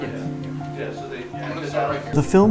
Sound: piano music; group chatter

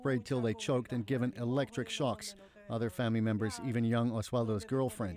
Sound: speaking Alternate Language

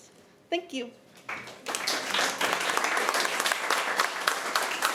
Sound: applause

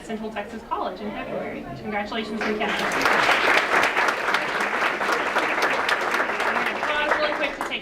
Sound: applause

